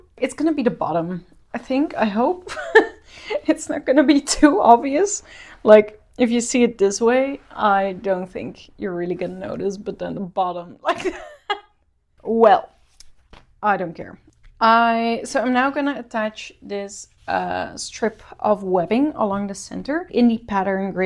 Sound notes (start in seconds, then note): 12.8 laughs